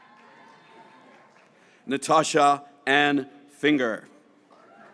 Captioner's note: graduates cheering